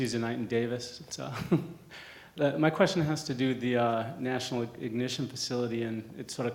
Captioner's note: laugh